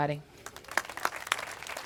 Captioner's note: applause